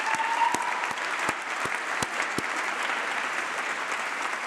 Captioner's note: applause